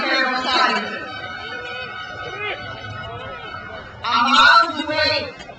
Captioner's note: crowd cheers